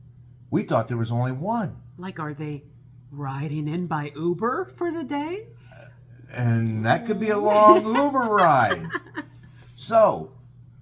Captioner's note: laugh